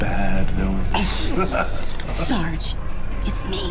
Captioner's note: laughs